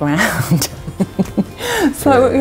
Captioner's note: laughing